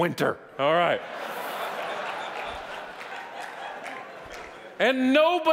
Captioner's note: audience laughing